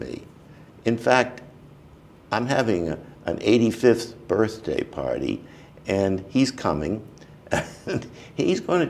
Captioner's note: chuckle